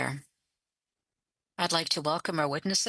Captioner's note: speaking French